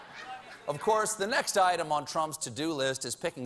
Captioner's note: laughter